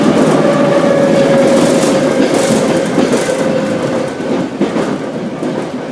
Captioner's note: braking